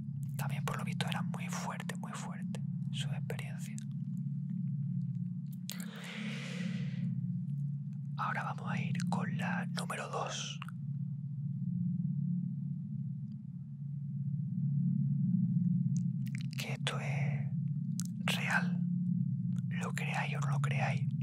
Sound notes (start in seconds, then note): 5.7 sigh